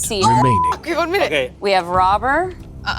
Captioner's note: beep